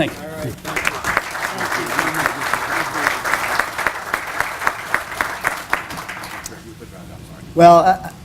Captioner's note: applause